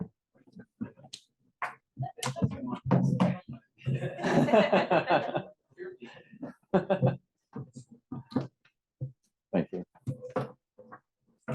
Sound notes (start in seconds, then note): 6.7 laughter